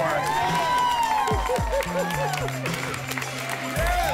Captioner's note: applause and cheering cont